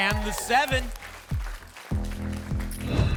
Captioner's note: applause and cheering; whoosh